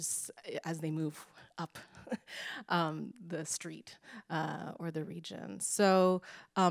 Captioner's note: chuckles